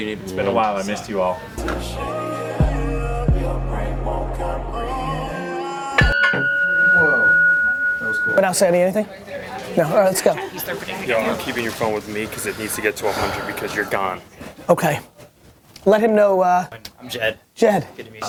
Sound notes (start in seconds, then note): 1.6 calm music; 6.0 loud ringing